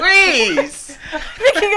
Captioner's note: both laughing